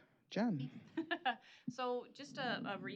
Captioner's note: chuckling